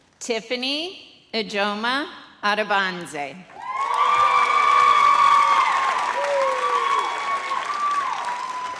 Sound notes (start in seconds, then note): 3.5 audience cheers